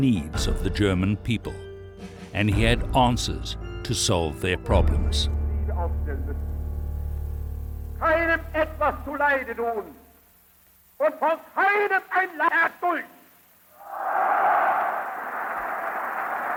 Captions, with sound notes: of the German people, and he had answers to solve their problems. (speaking German) (cheering)